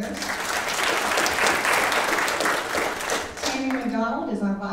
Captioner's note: audience applauding